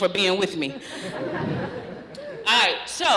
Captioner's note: laughter